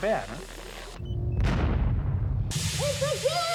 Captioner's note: explosion